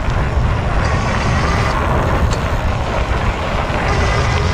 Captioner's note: gears turning